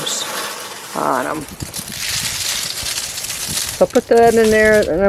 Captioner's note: leafs crumbling sounds